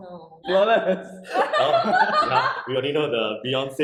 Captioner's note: laughing wishing she was deaf